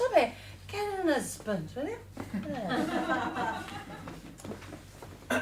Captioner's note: laughter